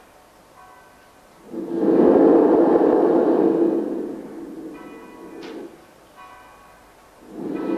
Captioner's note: shri mataji blows into the mic; shri mataji blows into the mic